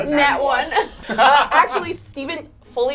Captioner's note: all laugh